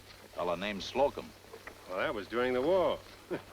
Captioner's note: chuckles